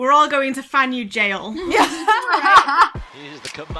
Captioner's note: hosts laugh